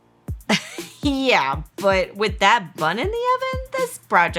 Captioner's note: scoffs